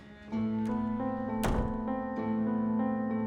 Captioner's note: door closes